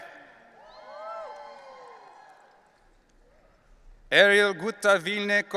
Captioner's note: audience cheering